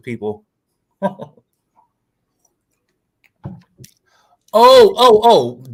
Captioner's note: laughs